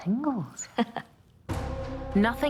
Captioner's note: laughs